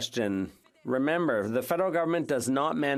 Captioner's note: speaking French